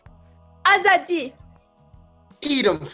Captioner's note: speaking in foreign language